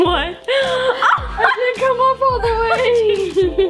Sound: laughs

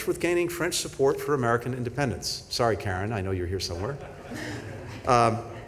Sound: laughter

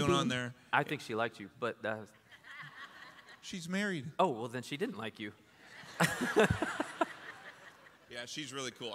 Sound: laughter

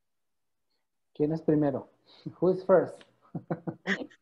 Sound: in Spanish

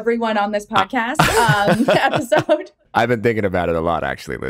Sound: laughs

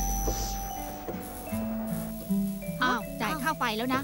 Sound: electric current sound

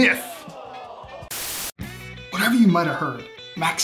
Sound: static hissing

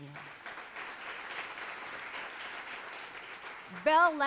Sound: audience applauds

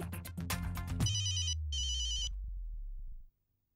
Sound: phone ringing

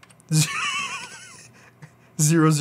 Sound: laughs

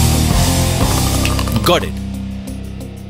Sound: snaps finger

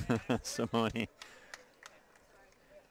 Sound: chuckles

